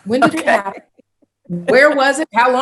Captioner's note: chuckling